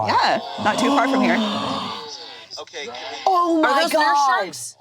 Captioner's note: all gasping